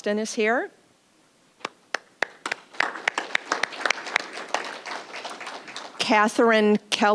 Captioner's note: applause